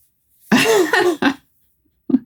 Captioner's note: laughing